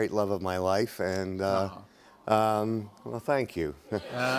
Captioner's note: audience "Awws"